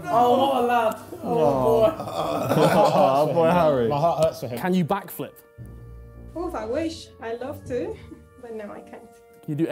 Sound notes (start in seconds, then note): 1.8 laughing mockingly